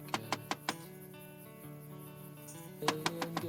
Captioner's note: tapping on window